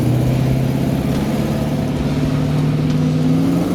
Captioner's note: engine roaring